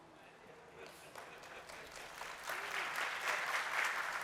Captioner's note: applause